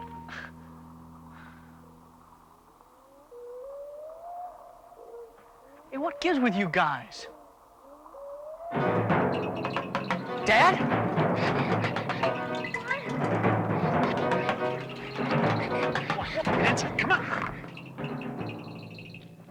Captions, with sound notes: - Eh! (bird howls) Hey, what gives with you guys? (suspenseful music) Dad? (deep suspenseful music) - Come on, come on. That's it, come on.